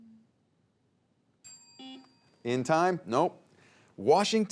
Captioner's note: bell dings